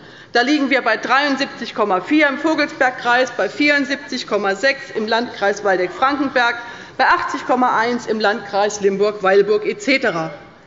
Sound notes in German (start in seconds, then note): none